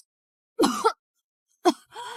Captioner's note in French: Tousse